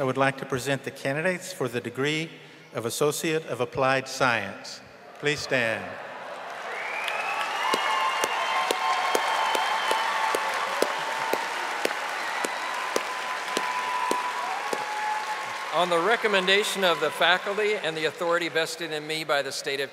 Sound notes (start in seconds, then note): 10.9 audience applauding and cheering